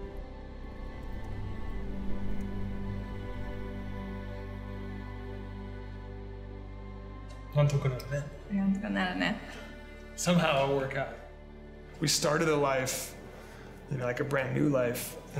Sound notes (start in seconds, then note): 0.2 calm orchestral music; 7.6 speaking in foreign language